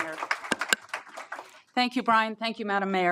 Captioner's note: applause